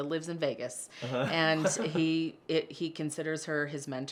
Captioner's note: laughter